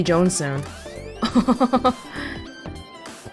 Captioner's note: chuckles